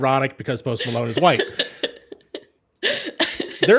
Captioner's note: laughs